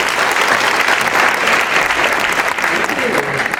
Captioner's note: applause